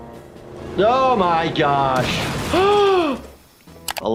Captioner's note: car crashing; gasps